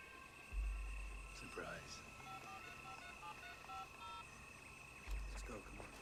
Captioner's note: phone Dialing